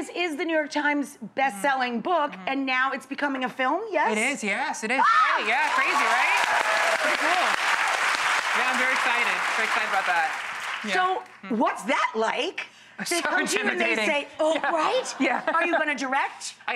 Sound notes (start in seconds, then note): 5.0 screams; 5.4 audience applauds